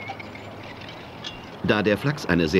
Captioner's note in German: Arbeitsgeräusche